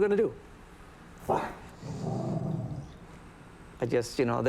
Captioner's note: dog growls